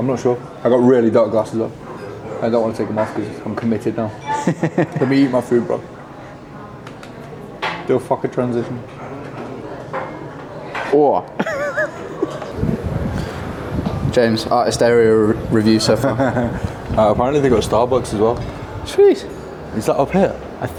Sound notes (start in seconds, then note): 4.3 laughs; 9.6 diners chatting; 11.4 laughs; 15.9 chuckles